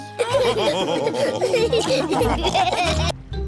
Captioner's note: all laughing